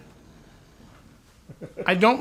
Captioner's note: chuckles